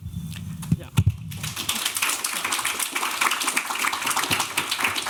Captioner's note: applause